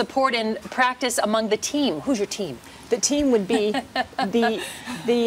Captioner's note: chuckles